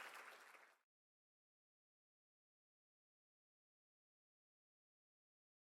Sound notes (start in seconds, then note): 1.0 silence